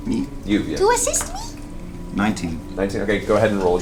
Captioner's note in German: piepsende Stimme